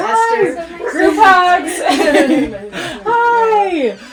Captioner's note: all laughing